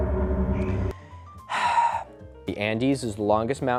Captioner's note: sighs